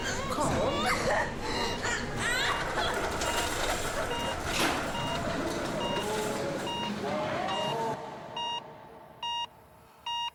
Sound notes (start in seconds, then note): 3.3 crying